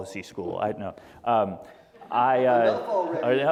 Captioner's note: laughter